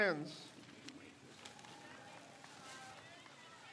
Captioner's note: crowd cheers